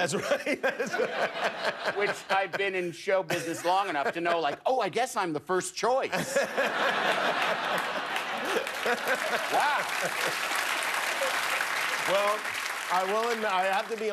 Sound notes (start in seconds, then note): 3.9 laughter; 9.9 applause